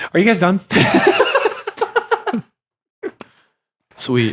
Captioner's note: all laughing